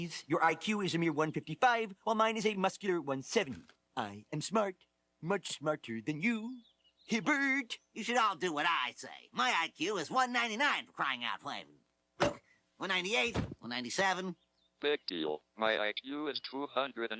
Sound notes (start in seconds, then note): 12.2 groans; 14.4 electronic Voice